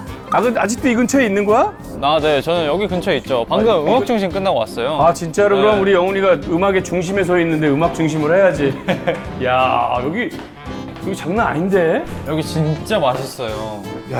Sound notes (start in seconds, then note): 8.6 heh heh